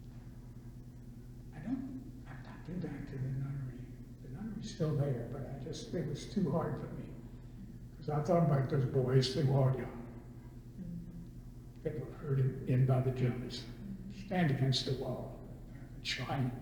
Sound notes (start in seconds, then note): 13.5 imitates accent